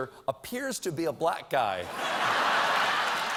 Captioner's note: laughter; applause